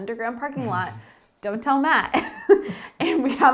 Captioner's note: chuckles